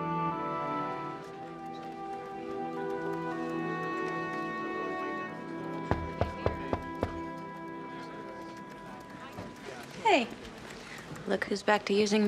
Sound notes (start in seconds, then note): 4.2 knocking